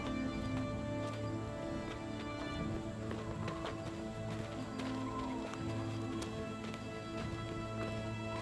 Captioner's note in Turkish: Ayak sesleri